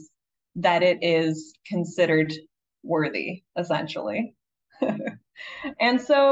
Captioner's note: chuckles